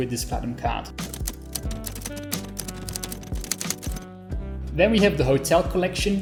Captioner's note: keys clacking